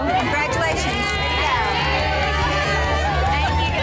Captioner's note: women cheering